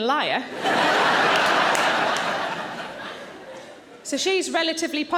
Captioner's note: audience laughing